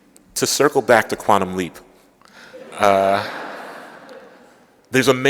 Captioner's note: laughter